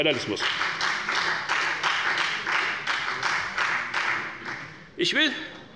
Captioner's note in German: Beifall bei der FDP